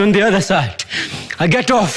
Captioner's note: heavy breathing